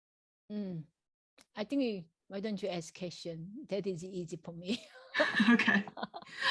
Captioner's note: laughs